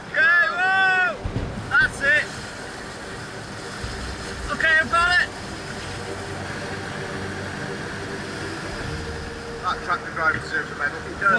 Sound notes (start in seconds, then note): 2.5 tractor droning; 2.5 water whooshing; 5.3 tractor droning; 5.3 water whooshing; 7.5 intense music